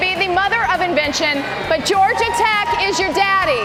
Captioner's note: cheers and applause